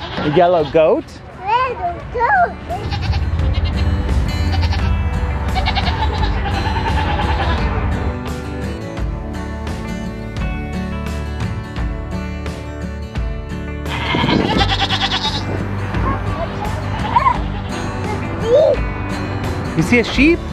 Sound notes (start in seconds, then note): 2.7 bright music; 2.7 goats bleat; 13.8 goat bleats